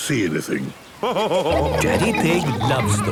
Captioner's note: laughing